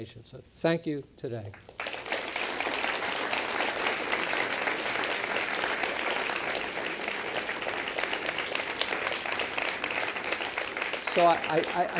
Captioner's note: applause